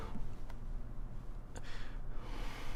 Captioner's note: heavy breathing